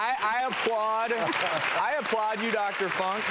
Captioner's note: audience applauds loudly